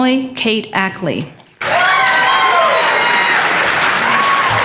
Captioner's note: applause